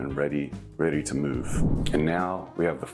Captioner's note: image whooshes